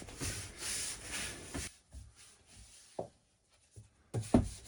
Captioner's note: scrubbing